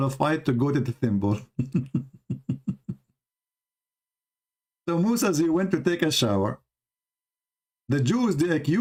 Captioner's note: Ketawa